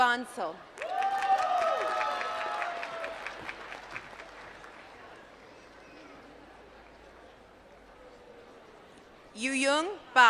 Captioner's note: applause